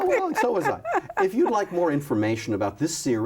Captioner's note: laughs